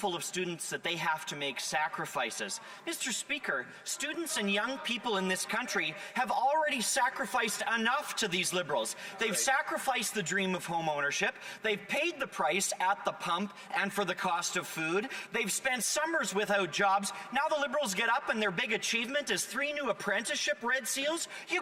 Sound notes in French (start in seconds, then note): 3.9 voix de l'interprète